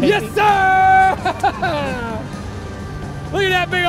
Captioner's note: laughs